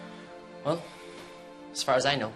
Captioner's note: gloomy music playing; sighing